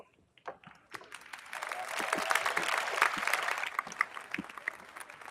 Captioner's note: audience applauding